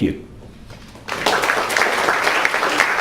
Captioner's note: crowd applauds